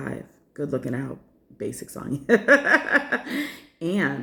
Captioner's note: laughter